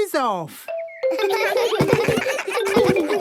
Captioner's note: giggles